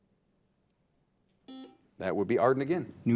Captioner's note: buzzer buzzing